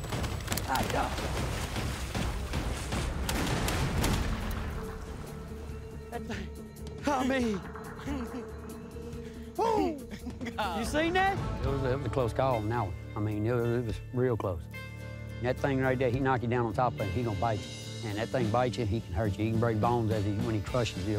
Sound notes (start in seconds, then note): 3.0 gunshots